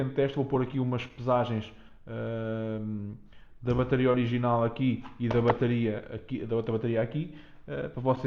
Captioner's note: hh